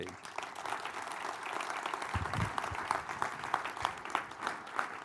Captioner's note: audience applauding